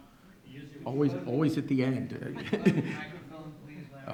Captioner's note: laughs